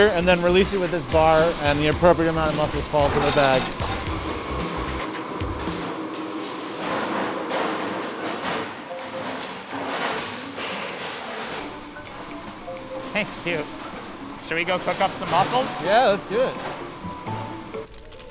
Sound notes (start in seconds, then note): 4.3 machine whirring; 6.9 mussels clacking